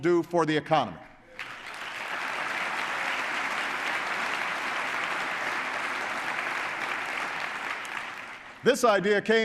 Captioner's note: applause